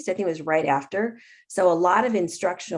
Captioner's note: none